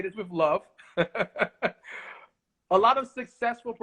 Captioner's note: laughs